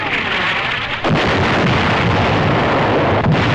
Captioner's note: explosions